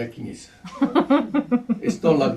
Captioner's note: laughter